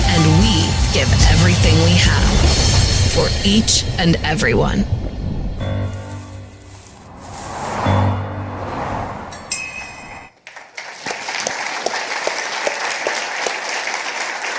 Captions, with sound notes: and we give everything we have for each and every one. (gentle music continues) (wind whooshing) (participants applauding)